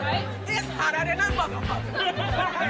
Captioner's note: group laughs